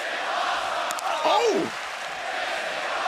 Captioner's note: fans chanting